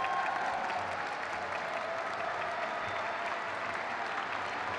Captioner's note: crowd cheers